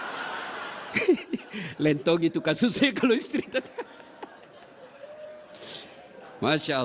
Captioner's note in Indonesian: tertawa